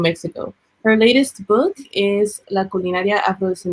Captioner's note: speaking Spanish